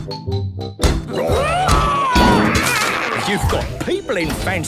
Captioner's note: all roaring